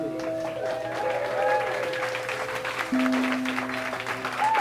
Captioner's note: applause